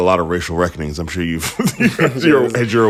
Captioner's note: laughter